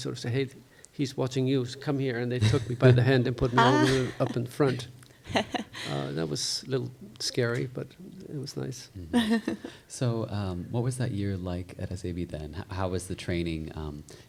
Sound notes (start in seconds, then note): 3.4 chuckles; 9.1 chuckles